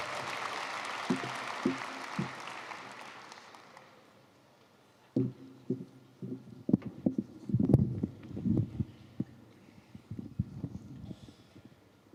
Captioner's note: applause